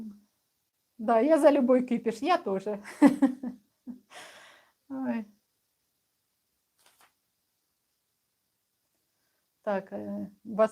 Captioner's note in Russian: смех